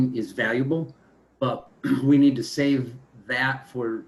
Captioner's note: clears throat